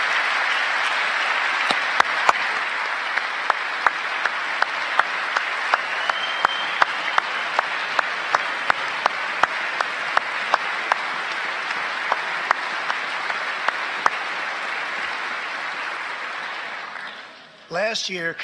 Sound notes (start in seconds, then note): 0.8 applause